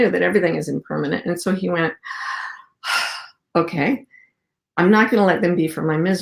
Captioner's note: exhaling